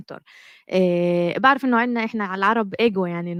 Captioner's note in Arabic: لغة أجنبية